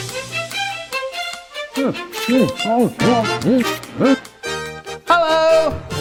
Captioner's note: eating noises